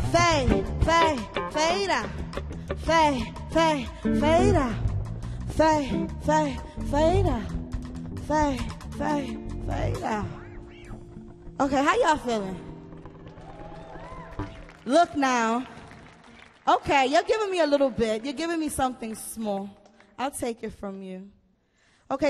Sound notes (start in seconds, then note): 9.1 music fades; 13.2 audience cheers